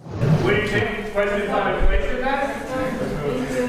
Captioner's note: group chattering